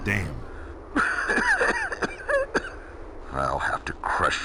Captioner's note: cough